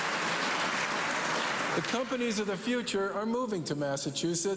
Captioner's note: cheers and applause